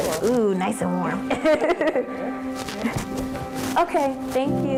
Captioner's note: laughs